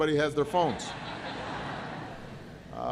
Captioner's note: laughter